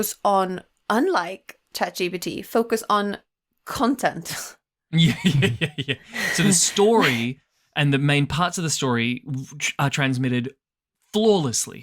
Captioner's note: laughs